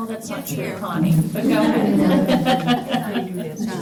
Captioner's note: laughter